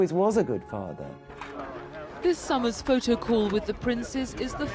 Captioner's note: voiceover